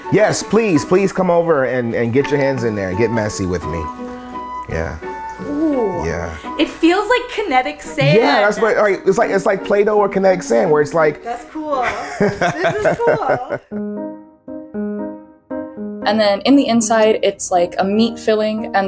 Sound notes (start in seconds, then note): 11.8 laughs; 13.8 bright music